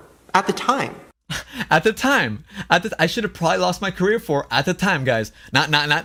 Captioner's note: laughs